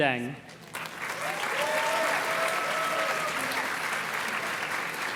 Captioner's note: audience cheers and claps